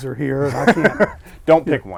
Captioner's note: laughing